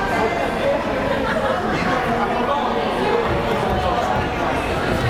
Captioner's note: crowd chatter